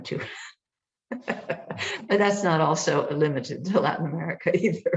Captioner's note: laughs